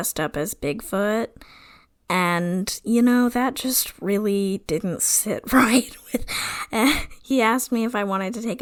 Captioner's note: laughs